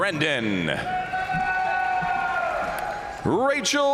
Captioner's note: crowd cheering; crowd applauding